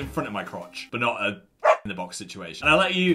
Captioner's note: dog barks